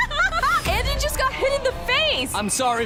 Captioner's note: laughs